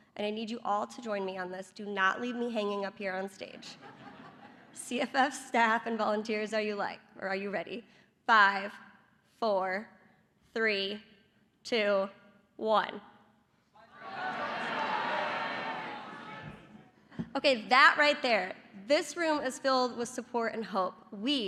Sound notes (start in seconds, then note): 3.6 laughter; 13.1 shouting